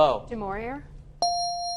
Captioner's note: bell dings